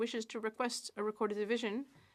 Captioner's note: speaking French